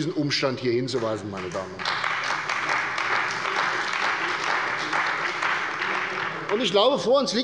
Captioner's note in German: Beifall bei der CDU und dem BÜNDNIS 90/DIE GRÜNEN